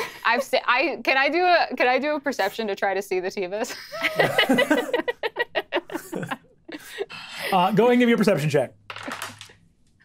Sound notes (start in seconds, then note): 3.9 players laughing